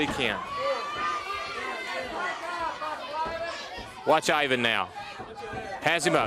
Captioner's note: crowd chatter